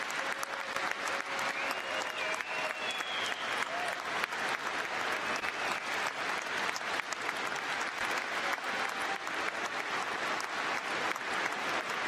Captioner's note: cheers and applause